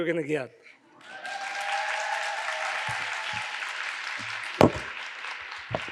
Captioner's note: audience cheers and applauds